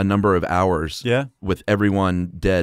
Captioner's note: voiceover